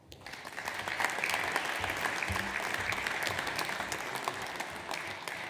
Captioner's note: audience applauds